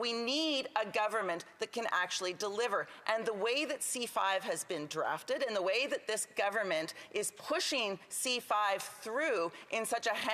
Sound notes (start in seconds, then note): none